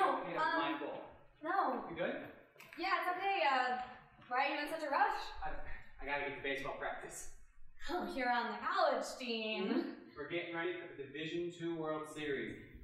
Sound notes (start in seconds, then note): none